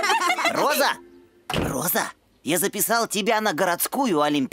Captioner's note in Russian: смеются